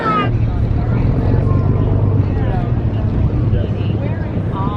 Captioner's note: ship engine running